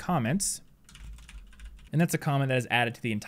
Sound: typing sound

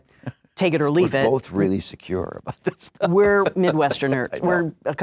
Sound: laughs

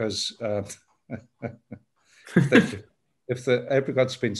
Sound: chuckles

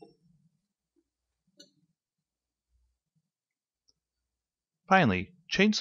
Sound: silence

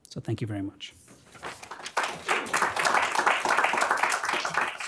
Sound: applause

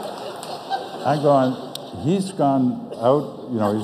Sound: audience laughs

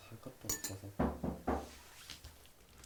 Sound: sound of knocking on the door

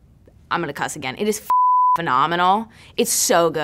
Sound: beep

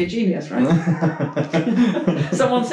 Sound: laughing

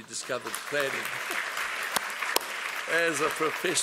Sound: applause

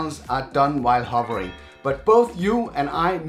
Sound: screen text chimes

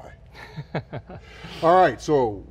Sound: laughs

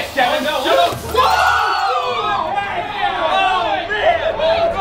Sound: everyone screaming

